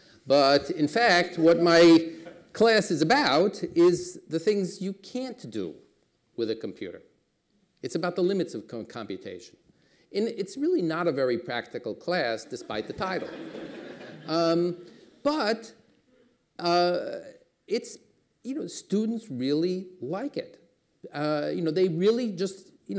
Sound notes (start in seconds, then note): 12.5 laughter